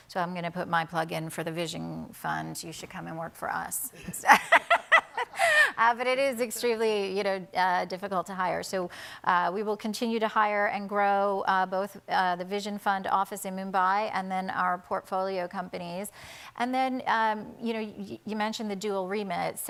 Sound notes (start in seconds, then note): 4.0 laughs